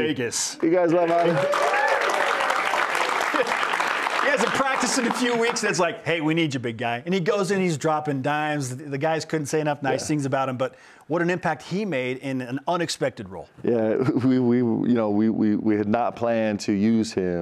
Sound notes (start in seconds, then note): 6.3 cheers and applause